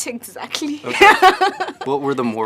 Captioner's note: laughs